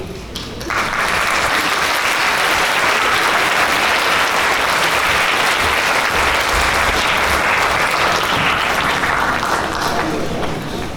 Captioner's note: applause